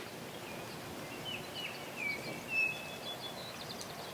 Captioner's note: birds chirping